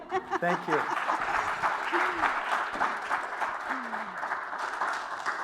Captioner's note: applause